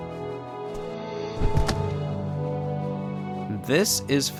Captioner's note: ax thudding